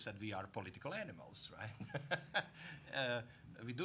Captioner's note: laughing